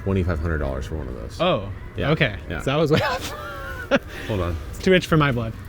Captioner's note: laughs